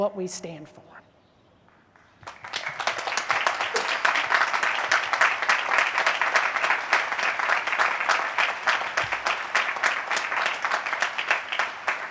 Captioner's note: applause